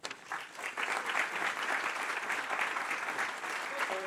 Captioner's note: applause